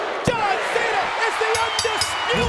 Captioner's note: hands thudding